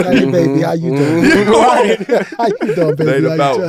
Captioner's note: laughing